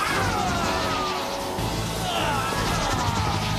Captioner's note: groaning